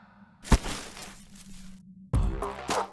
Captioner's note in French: bruit du sac qui glisse sur le sol